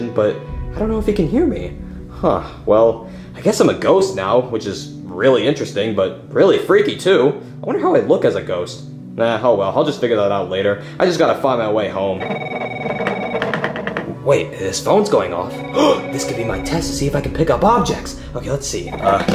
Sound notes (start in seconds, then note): 12.2 phone ringing; 15.7 gasping